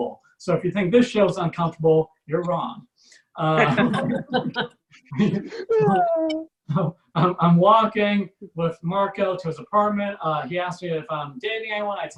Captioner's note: audience Laughs